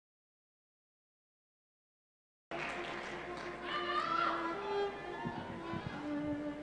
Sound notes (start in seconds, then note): 2.5 applause; 2.5 instrumental music